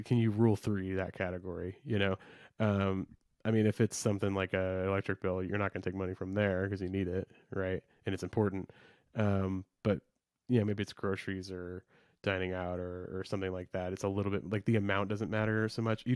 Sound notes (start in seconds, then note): none